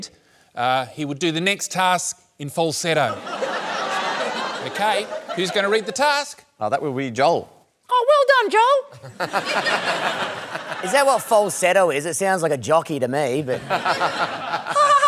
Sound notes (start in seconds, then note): 3.1 laughter; 7.9 falsetto; 8.9 laughter; 13.5 laughter